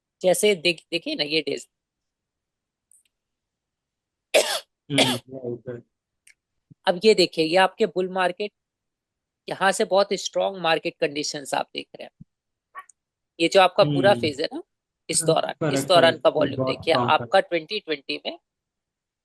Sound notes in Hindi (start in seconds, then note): 4.9 खांसने की आवाज़; 4.9 गला साफ़ करने की आवाज़